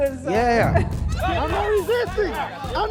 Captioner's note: laughing